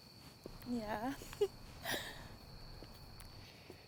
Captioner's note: giggles